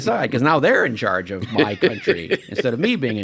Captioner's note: laughs